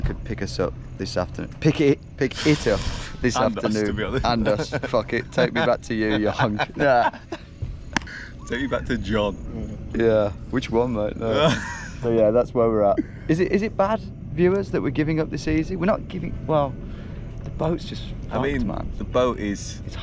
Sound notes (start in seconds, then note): 7.0 both laugh